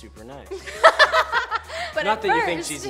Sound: chuckles; girls laughing

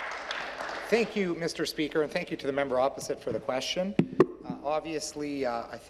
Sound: applause

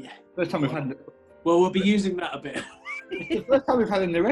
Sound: laughing

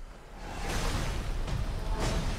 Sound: claw thumps; dramatic music increases

